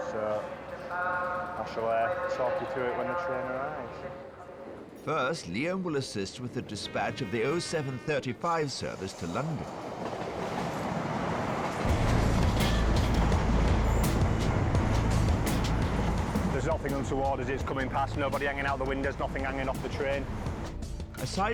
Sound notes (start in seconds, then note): 10.1 train rumbling; 12.1 mellow rock music